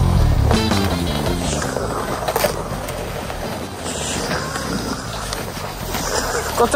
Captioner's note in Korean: 입에서 나는 소리 아님. 바람소리임